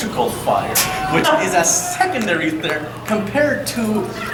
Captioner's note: audience chuckling